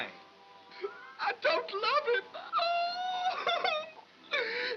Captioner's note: crying dramatically